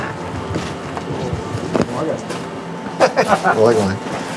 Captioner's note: they laugh